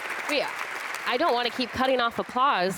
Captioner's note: applause